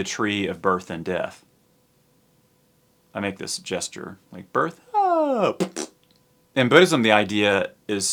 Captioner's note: blows raspberry